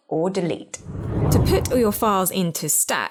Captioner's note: air whooshing